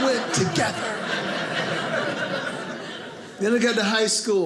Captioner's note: audience laughing